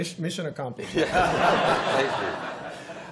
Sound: laughter

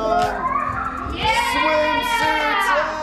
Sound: kids cheering

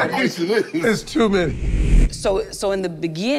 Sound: wind whooshes

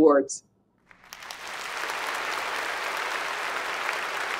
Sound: applause

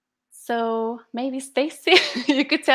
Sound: laughter

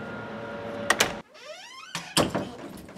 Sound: door creeks and closes

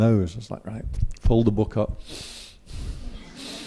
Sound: breathe hard

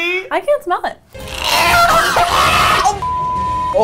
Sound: man gagging; beep

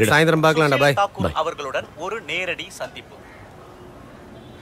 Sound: TV news continues

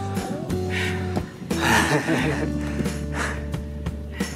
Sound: heavy breathing

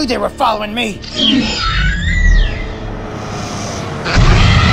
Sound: velociraptor sounds; vehicle approaching sounds

